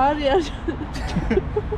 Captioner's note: laughs